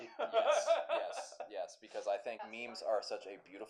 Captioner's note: laughter